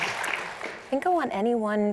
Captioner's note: applause